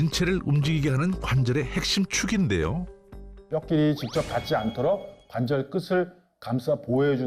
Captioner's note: voiceover